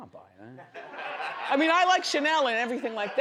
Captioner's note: audience laughs